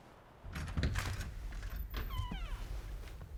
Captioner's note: door opens